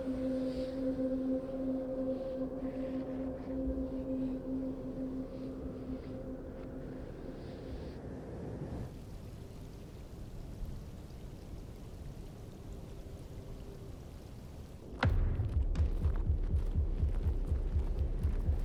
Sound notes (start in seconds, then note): 9.2 river babbling; 14.8 suspenseful music; 18.4 wind blowing